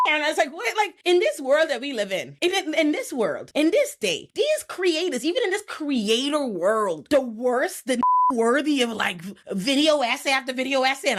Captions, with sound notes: and it's like, in this world that we live in, in this world, in this state, these creatives, even in this creator world, the worst, the (beep) worthy of like video ass after video ass,